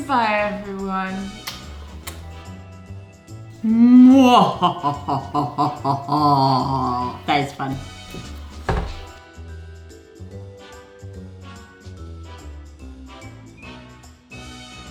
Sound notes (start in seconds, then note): 3.6 laughing